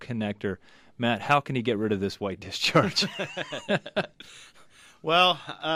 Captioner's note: both laugh